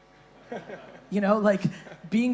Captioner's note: chuckling